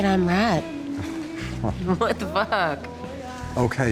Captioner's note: Tommy scoffing